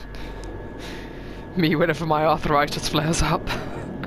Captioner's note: laughing